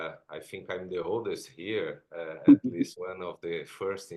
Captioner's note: chuckles